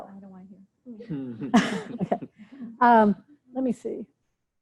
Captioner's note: laughter